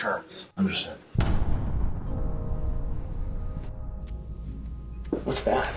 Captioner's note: distant booming